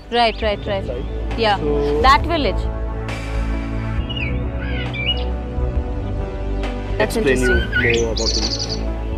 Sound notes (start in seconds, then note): 2.8 gentle music; 2.8 moves into bird chirping